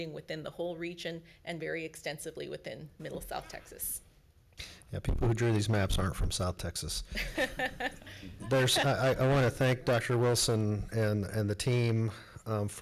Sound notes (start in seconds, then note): 7.1 laughing congregation